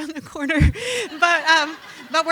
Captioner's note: laughter